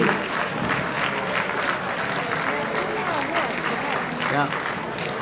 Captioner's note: audience applauding